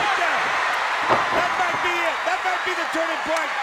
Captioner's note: crowd cheering